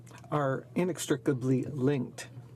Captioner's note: speaking French